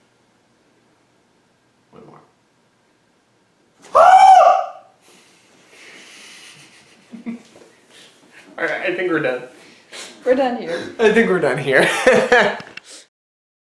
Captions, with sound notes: one more... STRANGLED AND CONFUSED GOOSE *SHE STARTS LAUGHING* Alright, I think we're done. We're done here I think we're done here.